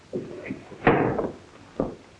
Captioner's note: window closing